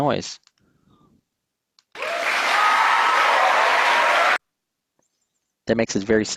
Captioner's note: cheers and applause